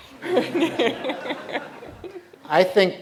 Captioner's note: laughter